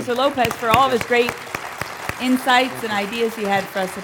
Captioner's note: applause